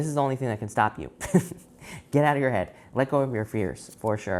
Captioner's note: chuckles